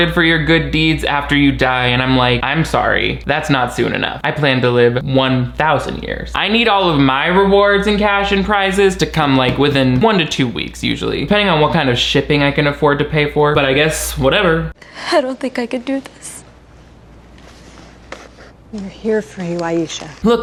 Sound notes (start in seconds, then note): none